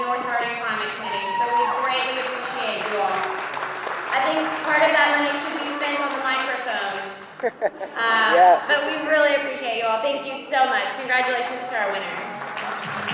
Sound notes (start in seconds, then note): 3.5 applause; 7.3 laughter; 11.9 audience applauding